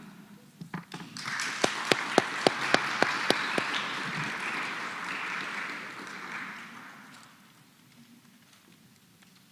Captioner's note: applause